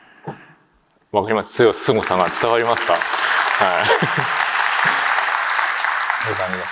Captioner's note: applause